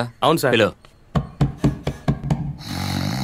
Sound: knocking Door

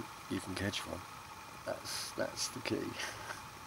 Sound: laughing

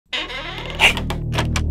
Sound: door creaks and opens

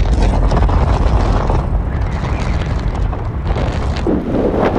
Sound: strong winds blowing

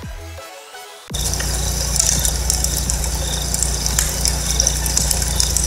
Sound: insects chirping

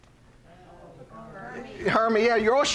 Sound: audience answering

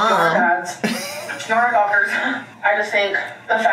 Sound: laughing; laughs

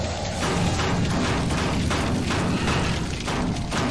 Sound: metal banging

